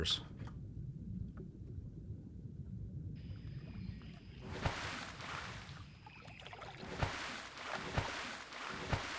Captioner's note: water gurgling